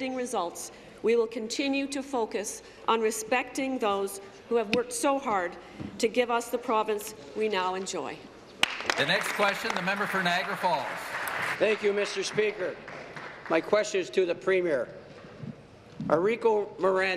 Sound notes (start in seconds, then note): 11.7 applause